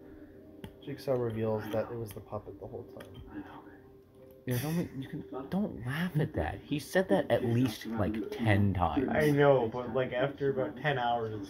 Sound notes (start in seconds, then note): 4.5 snickers